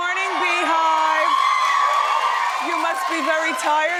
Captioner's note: audience cheering